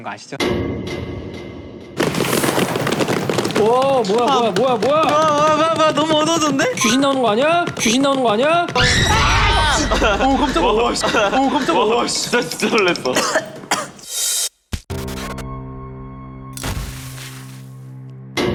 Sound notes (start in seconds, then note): 8.7 A sudden scream; 13.1 cough cough